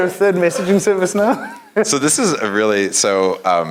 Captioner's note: laugh